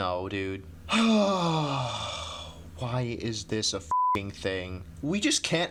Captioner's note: frustrated sigh